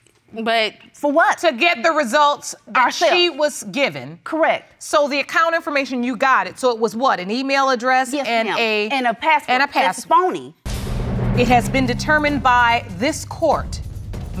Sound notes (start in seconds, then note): none